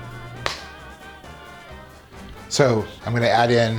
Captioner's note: fingers snapping